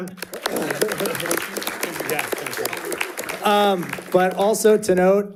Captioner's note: audience applauding